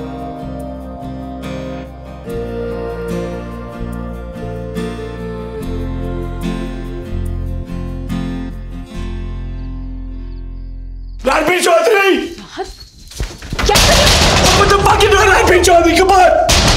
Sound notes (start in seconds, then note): 12.7 bangs